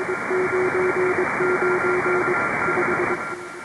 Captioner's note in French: morse